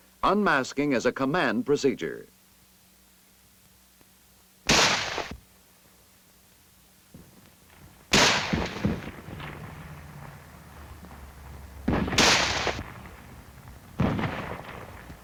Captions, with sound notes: unmasking is a command procedure. (gunshots) (explosions in distance)